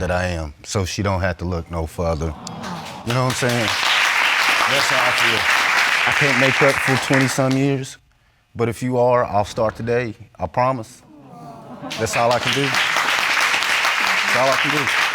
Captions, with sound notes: so she don't have to look no further. You know what I'm saying? That's how I feel. (AUDIENCE APPLAUDING) I can't make up for 27 years, but if you are, I'll start today, I promise. (AUDIENCE EXCLAIMING) That's all I can do. That's all I can do.